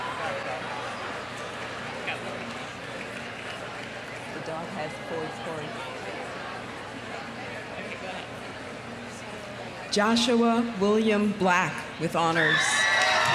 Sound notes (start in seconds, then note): 5.8 crowd chattering